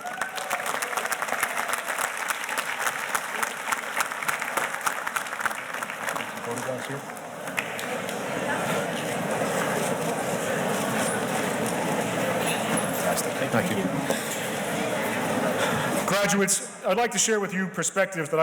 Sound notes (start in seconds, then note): 0.0 audience cheers and applauds; 6.7 murmurs